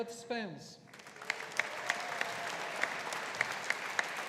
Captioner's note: audience applauding